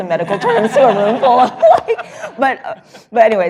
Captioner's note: laughter